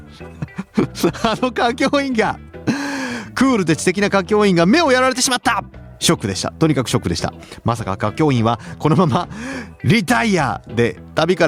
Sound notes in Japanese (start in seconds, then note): 0.1 笑い; 2.6 息をのむ音